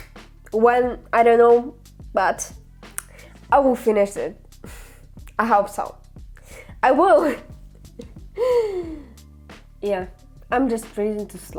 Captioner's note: laughter and sigh